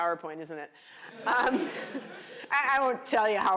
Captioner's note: laughter